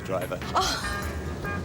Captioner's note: laughs